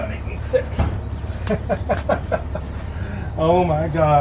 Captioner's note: laughter